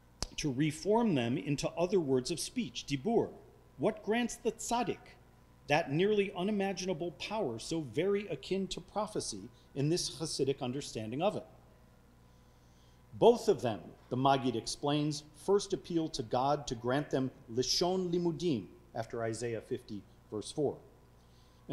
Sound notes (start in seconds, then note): 17.2 speaking foreign language